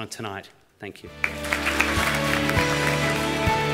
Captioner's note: applause